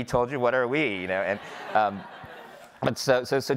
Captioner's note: audience laughing